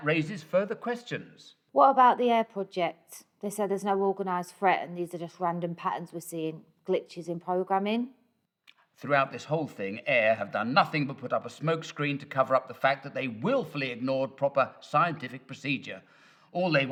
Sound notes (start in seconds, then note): none